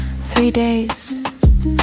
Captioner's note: thump-thump... Thump-thump